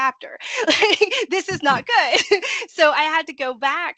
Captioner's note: laughing